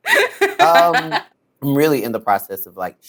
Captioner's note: laughs